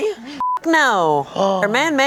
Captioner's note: beep